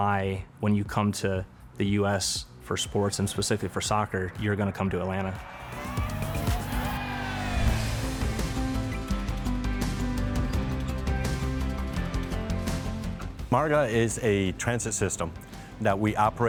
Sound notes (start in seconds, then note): 5.4 crowd shouting; 5.5 fun music